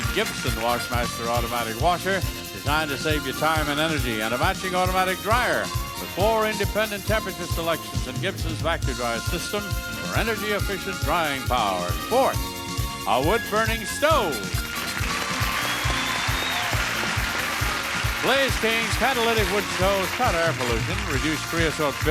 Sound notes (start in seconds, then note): 14.2 audience cheers and applauds; 14.6 upbeat music